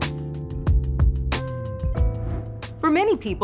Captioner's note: lounge music; graphics whooshing